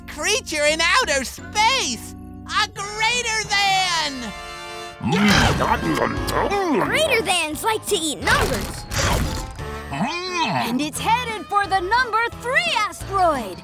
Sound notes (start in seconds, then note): 4.8 chomping